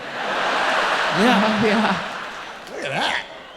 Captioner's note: audience cheering